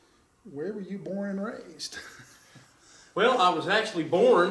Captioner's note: chuckles